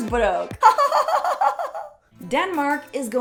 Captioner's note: laughter